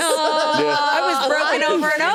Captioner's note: all laughing